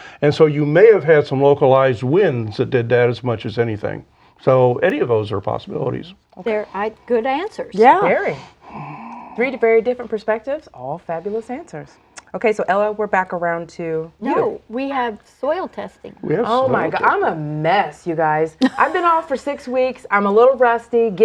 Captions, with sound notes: AND SO YOU MAY HAVE HAD SOME LOCALIZED WINDS THAT DID THAT AS MUCH AS ANYTHING. SO ANY OF THOSE ARE POSSIBILITIES. - GOOD ANSWERS. - YEAH. - VERY. - THREE VERY DIFFERENT PERSPECTIVES. ALL FABULOUS ANSWERS. OKAY, SO ELLA, WE'RE BACK AROUND TO YOU. - NO, WE HAVE SOIL TESTING. - OH MY, I'M A MESS YOU GUYS. (LAUGHS) I'VE BEEN OFF FOR SIX WEEKS. I'M A LITTLE RUSTY.